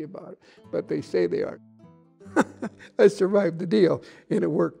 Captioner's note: laughs